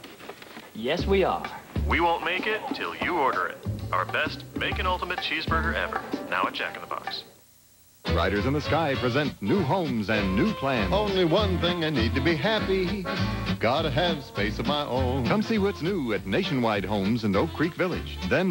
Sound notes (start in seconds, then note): 1.7 Jack, who sounds like a drive-thru speaker